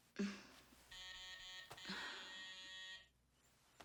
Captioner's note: doorbell buzzes; Mia sighs